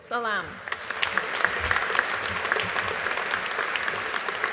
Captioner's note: audience applauding